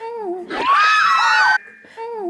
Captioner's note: shrieking♥